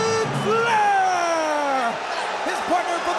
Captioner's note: audience cheers; ceremonial music